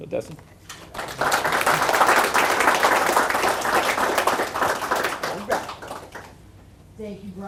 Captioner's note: applause